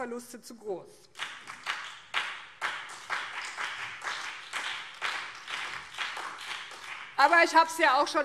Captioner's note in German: Beifall BÜNDNIS 90/DIE GRÜNEN und CDU